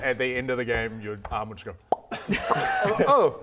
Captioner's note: pop